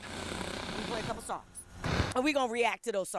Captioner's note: static humming; static hums